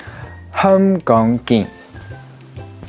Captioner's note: speaks Cantonese